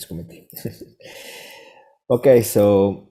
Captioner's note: chuckles